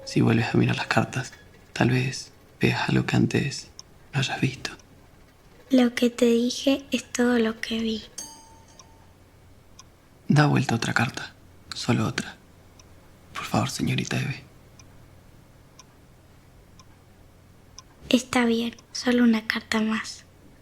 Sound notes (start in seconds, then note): 16.6 clock ticking